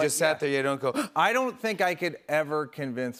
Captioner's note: gasps